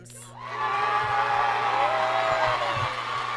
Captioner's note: applause